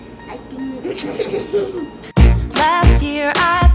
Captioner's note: laughing